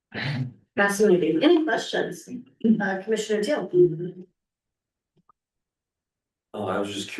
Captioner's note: clears throat